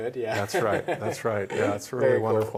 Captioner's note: laughs